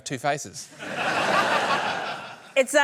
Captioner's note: laughter